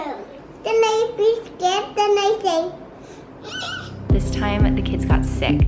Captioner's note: squeals